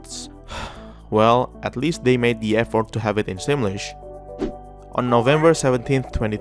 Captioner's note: sigh